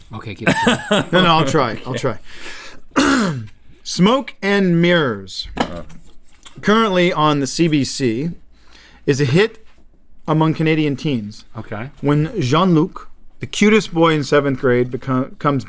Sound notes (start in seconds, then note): 2.9 clears throat